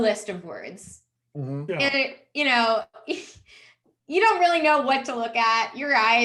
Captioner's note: chuckles